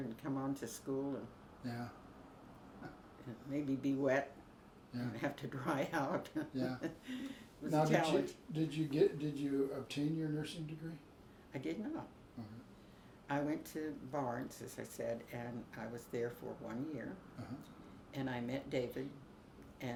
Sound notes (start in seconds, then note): 6.1 laughs